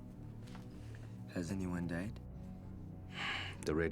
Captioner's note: sighs